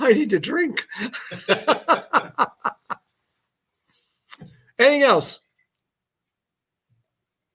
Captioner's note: laughter